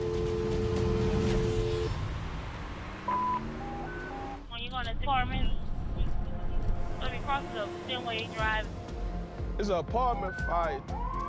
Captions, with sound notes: [dial tone] [radio beeps] It's a apartment fire.